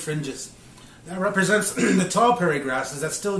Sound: clears throat

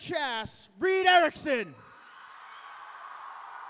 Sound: cheering

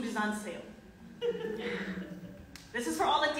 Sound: audience laughing

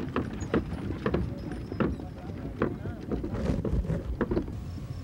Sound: wagon wheels creaking

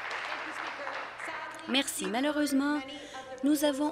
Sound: applause

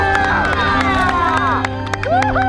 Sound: people clapping; people cheering

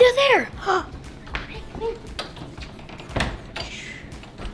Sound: gasps

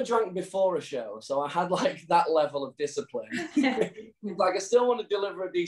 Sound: chuckles

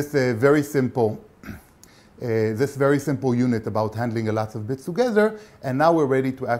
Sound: cough

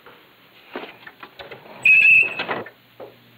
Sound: door alarm

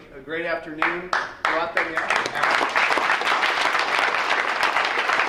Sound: crowd applauds

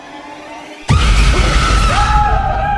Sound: screams

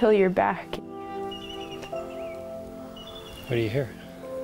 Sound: bird chirping

